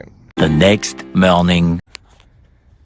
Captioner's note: spongebob voice